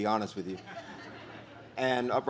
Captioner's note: audience laughs